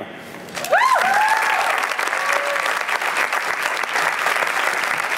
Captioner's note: applause